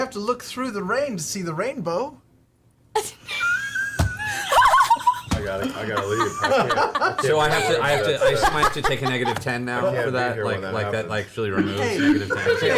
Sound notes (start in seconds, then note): 3.6 all laugh